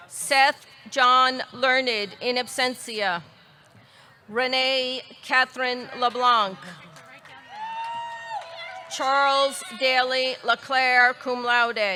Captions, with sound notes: Seth John Learned, in absentia. Renee Catherine LeBlanc. (audience cheering) (audience clapping) Charles Daily LeClair, cum laude.